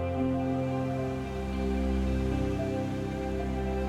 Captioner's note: water rushing